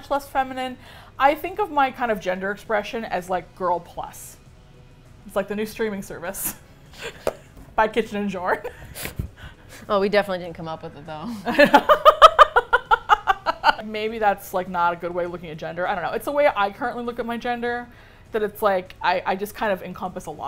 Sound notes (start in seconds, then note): 8.6 both laugh; 11.3 laughs